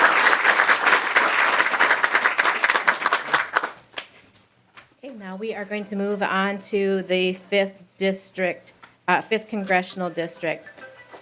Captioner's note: applause